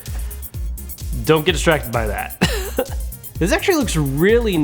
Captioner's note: laughs